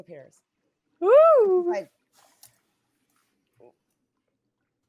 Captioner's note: exclaims